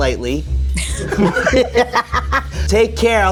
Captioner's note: both laughing